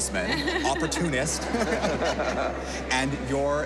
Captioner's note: all laugh